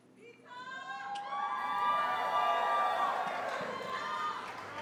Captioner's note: cheering and applause